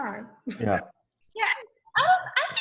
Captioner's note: laughs